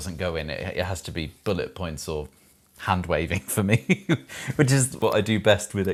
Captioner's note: laughs